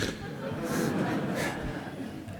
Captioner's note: laughter